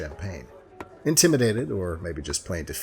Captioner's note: none